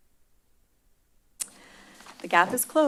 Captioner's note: smacks lips